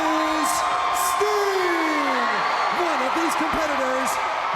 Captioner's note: crowd cheering